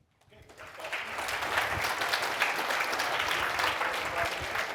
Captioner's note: audience applauding